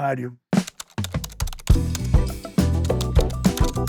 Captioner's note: typing